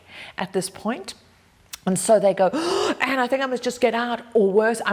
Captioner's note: gasps